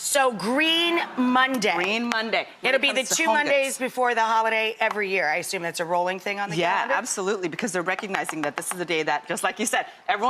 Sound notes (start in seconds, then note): none